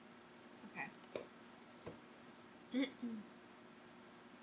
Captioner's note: clears throat